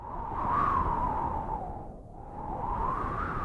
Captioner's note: wind